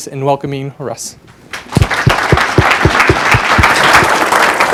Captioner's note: applause